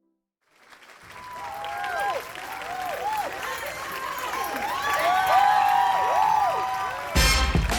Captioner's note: applause and cheering